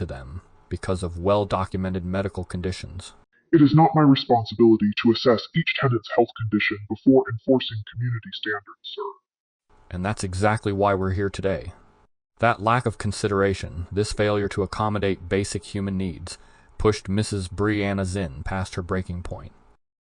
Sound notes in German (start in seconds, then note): 3.5 verzerrt